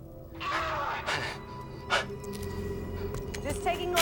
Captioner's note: person screaming